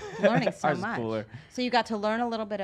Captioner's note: laughs